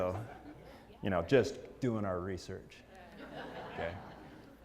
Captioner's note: laugh